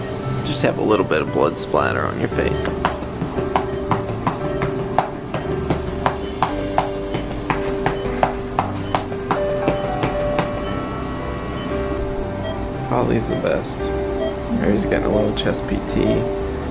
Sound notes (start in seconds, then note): 2.6 patting